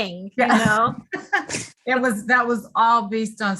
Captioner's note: chuckles